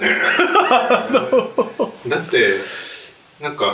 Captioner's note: laughing